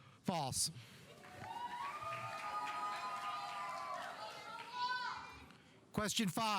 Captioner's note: audience applauding; audience cheering